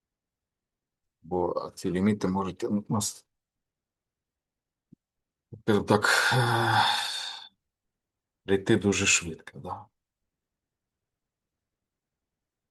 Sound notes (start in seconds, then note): 6.1 sigh